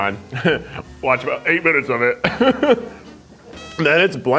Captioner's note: laughs